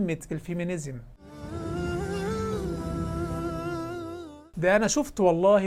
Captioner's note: logo and sound effect